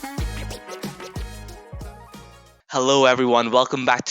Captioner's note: record scratching